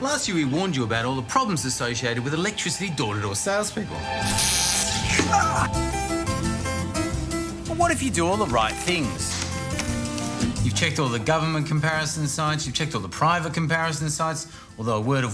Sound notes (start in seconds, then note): 4.7 gasps